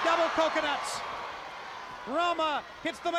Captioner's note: crowd cheering